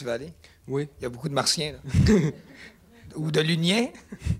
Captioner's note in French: petits rires